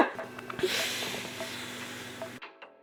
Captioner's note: deep breathing